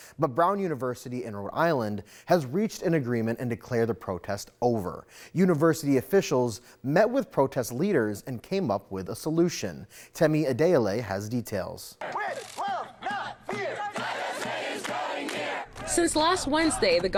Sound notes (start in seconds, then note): 12.0 crowd